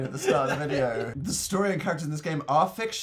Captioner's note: laughing